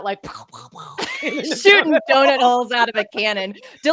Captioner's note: both chuckling